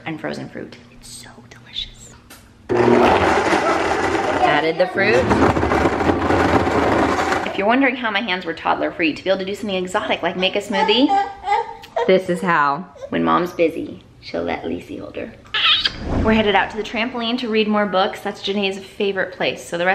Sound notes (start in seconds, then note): 2.7 blender whirs; 10.8 baby whining